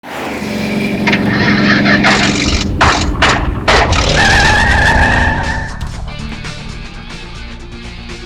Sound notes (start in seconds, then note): 0.0 car engine roaring; 2.8 gun shots; 5.6 rock music